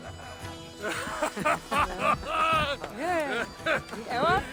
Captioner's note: laughs